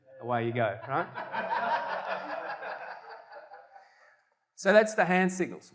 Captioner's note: audience laughter